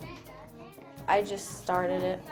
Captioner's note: foreign Language